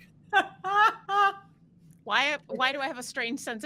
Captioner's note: laughs